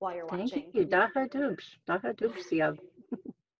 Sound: speaking Lushootsee

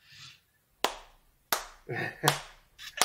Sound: slow Clap

